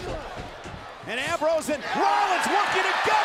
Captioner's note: applause